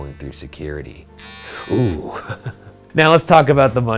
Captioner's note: trimmer buzzing; chuckles